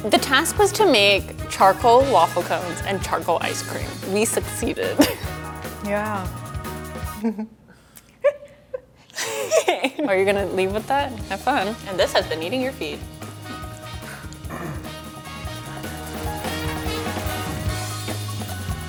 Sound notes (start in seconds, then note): 8.2 laughing; 16.2 upbeat music